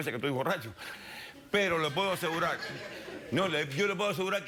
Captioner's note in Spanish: Risas